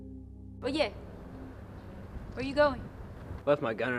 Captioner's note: speaks in Spanish